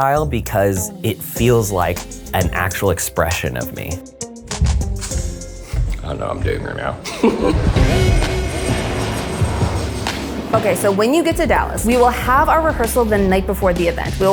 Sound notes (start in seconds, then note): 7.0 laughs; 7.3 airplane engine rumbles; 8.3 upbeat music